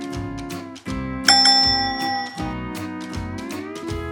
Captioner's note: bell dings